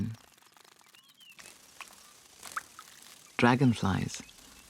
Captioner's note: insects chirping